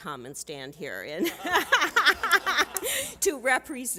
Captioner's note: laughter